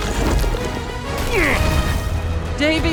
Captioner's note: jack grunts